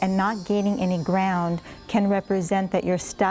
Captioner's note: bells chiming